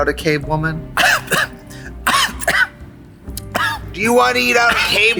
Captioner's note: Katya coughing